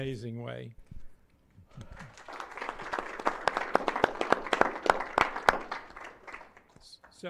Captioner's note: applause